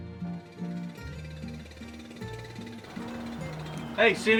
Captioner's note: motor running